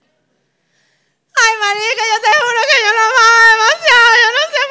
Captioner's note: sobbing